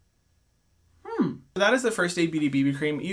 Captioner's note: vocalizing